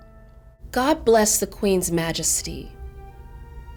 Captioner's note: voiceover